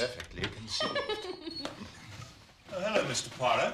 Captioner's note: tertawa